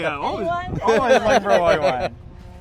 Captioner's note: laughs